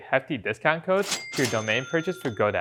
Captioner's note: cash register dings